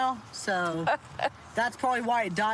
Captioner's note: laughs